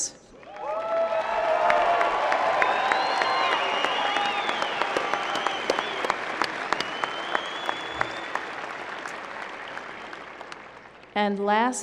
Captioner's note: cheering, applause